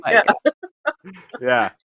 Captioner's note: laughs